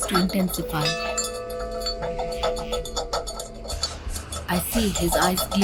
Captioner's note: bell clanking